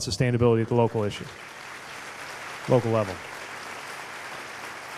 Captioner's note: applause